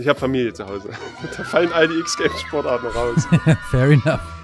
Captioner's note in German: lacht